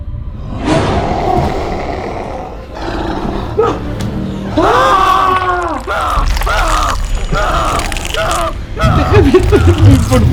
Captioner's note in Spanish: Ruidos de un animal y gritos